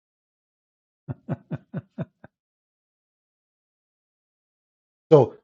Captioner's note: Ketawa